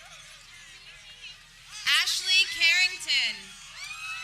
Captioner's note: people cheering